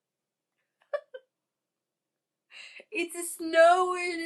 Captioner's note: giggles